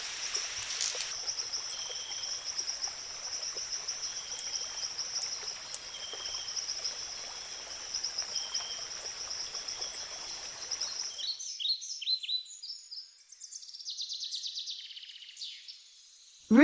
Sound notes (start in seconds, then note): 0.0 birds singing and chirping; 0.0 river flowing; 3.2 birds chirping and singing; 3.2 river flowing; 11.9 birds chirping